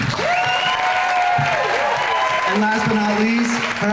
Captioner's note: crowd cheering